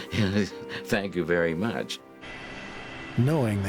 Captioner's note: laughs